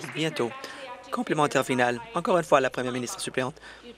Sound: applause

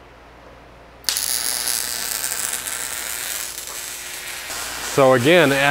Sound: welder crackling

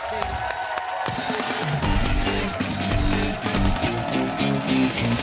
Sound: cheers and applause

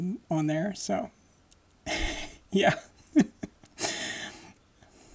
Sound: laughing

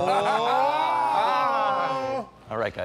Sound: laughs

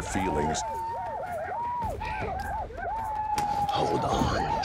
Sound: whooping sounds outside

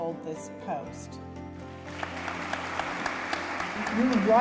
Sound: clapping

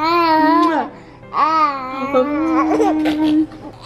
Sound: babbling

